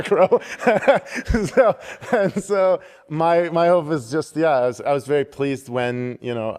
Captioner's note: laughter